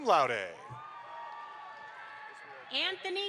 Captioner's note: audience applauds